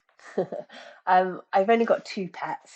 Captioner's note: laughing